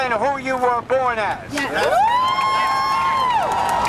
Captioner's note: cheers/applause